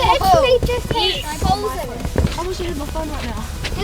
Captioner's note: kids exclaim